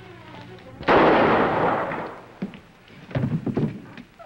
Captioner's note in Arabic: طلق ناري